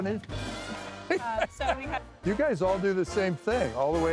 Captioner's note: laughter